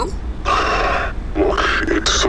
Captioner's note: Flint sighs